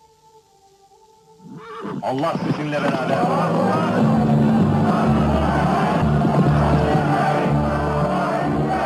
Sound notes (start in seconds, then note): 2.1 crowd